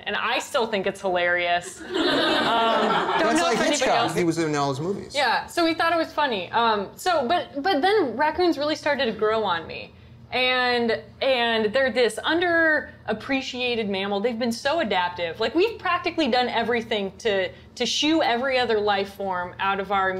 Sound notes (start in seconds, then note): 1.7 laughter